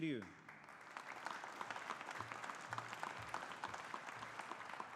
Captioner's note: audience applauding